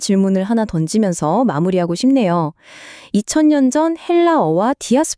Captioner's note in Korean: 헉 소리